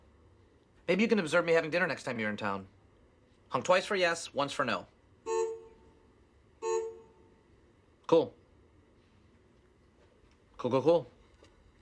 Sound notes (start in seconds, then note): 5.0 honk; 5.3 second honk